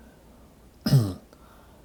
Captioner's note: clears throat